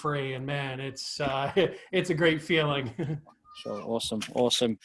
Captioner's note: laughs